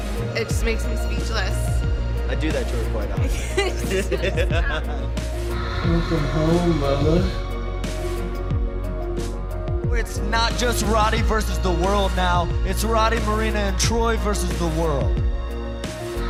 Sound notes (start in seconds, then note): 3.2 laughter